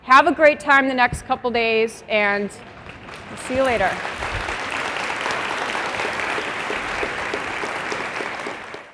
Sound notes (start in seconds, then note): 4.6 applause